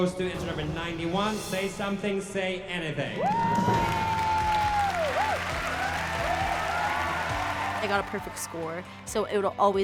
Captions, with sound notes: goes to entry number 91, "Say Something, Say Anything." [cheers and applause] [bright music playing] I got a perfect score, so it'll always be